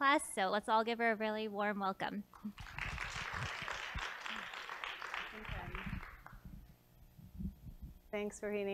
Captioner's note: applause